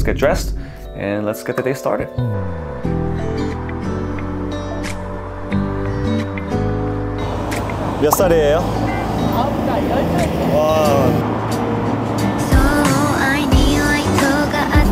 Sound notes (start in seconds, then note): 3.1 tranquil music; 8.3 speaking in Korean